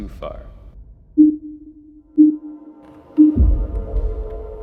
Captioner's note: countdown beeping